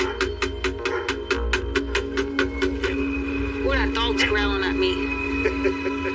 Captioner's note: knocking,g, dog barkiking